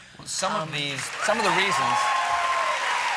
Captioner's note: applause